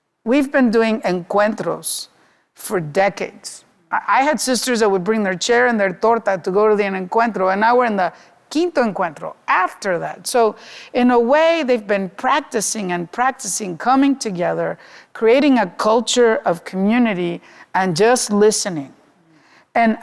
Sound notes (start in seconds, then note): 1.4 speaking Spanish; 6.0 speaking Spanish